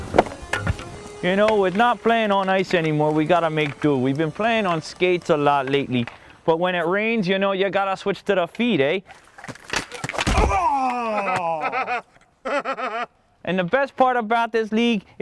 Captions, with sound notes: You know, with not paying on ice anymore, we gotta make do. We've been playing on skates a lot lately. But when it rains, you know, you gotta switch to the feet, eh. *Painful Grunt* *Taunting laughter* And the best part about this league